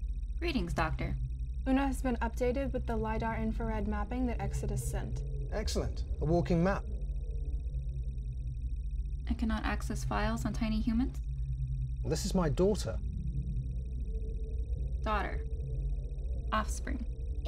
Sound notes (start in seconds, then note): 7.3 computer trilling